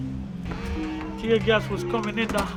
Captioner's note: soft music; door creaks